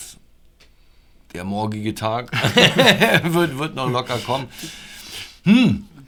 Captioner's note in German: lachen